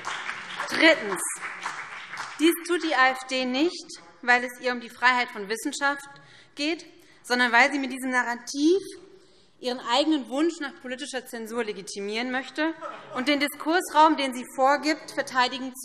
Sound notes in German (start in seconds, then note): 0.0 Beifall BÜNDNIS 90/DIE GRÜNEN; 12.8 Lachen AfD